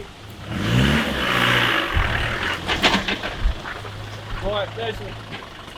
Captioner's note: vehicle engine roaring